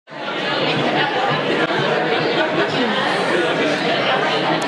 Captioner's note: students chattering